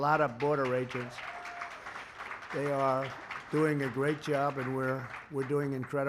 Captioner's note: applause